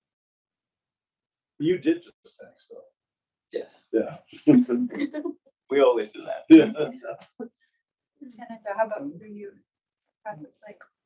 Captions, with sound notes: You did just (mic cuts out) - Yes. - Yeah. - We always do that. - How about you?